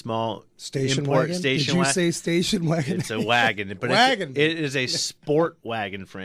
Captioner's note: laughs